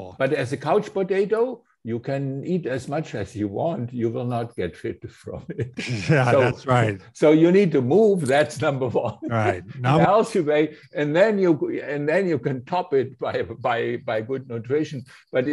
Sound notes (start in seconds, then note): 8.8 laughs